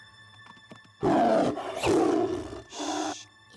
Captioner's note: growls